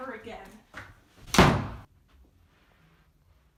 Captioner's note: door slams